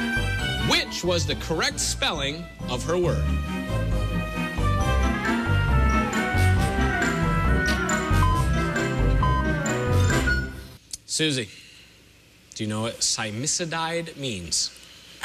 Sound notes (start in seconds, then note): 7.6 electronic beeping